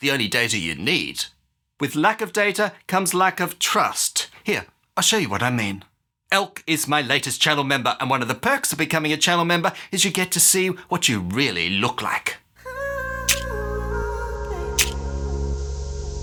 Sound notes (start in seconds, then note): 13.3 clicking